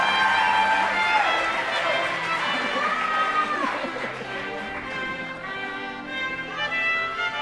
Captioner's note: laughter